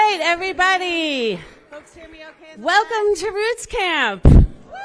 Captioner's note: cheering